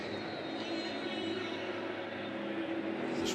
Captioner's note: whistle